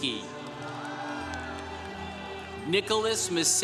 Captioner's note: congregation cheering